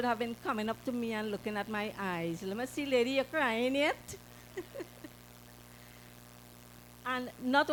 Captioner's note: laughter